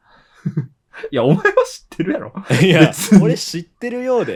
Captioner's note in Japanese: 笑い